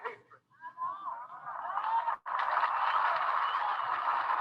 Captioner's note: audience applauding